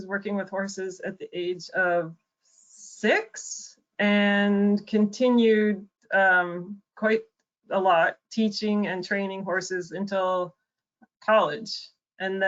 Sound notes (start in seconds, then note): none